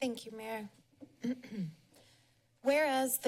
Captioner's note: clears throat